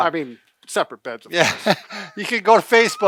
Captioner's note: both laugh